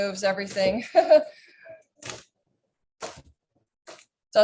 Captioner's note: chuckles